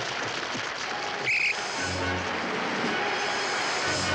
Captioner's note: whistle shrills; grand orchestral music